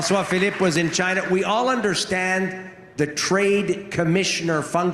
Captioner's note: applause